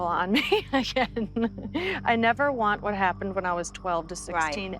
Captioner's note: laughs